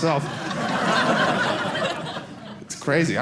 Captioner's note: audience laughing